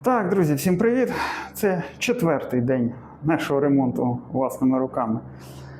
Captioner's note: sighs